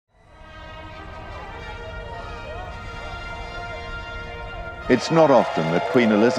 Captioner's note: crowd cheering; upbeat music